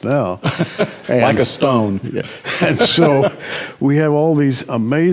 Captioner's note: laughs